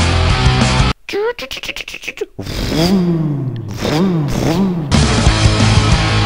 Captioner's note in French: bruit voiture